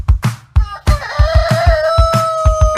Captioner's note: rooster crows